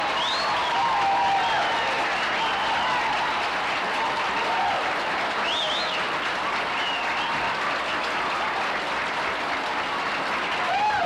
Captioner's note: applause